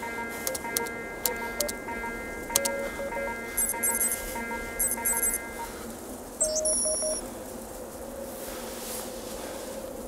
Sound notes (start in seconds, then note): 6.4 friendly beep